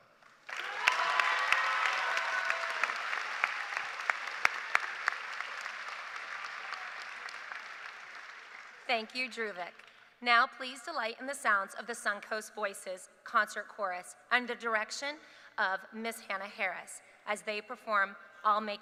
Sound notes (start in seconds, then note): 3.2 cheers and applause